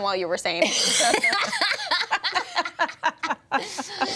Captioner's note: everyone laughs